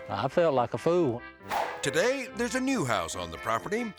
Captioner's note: air swoosh